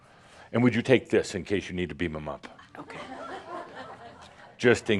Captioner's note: some laughter